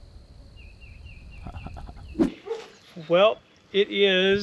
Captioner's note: cameraman chuckles